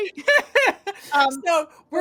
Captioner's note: laughing